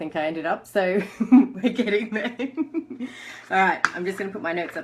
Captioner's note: laughs